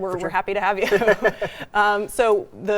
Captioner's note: both laugh